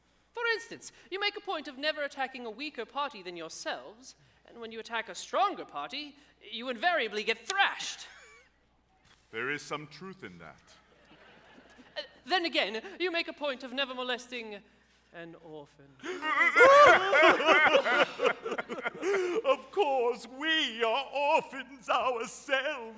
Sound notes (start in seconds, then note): 11.0 audience laughs; 16.0 all sobbing